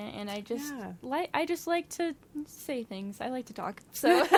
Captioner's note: laughs